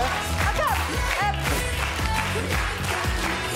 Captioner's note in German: Sie lachen